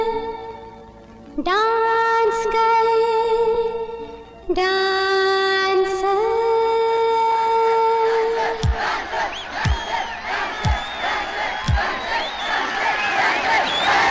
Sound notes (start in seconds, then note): 8.2 all Cheering